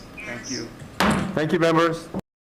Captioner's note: gavel bangs